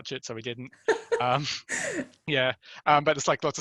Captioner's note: laughing